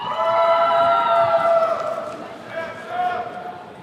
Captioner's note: attendees cheering